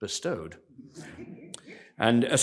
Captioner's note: laughter